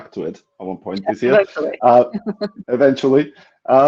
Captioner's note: laughing